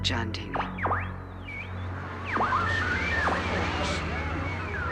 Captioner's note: berkedip statis